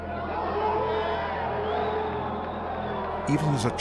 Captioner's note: crowd jeers